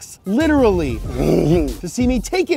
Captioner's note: laughs